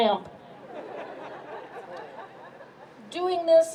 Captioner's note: crowd laughs